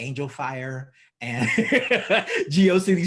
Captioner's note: laughs